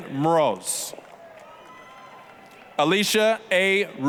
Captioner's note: applause, cheering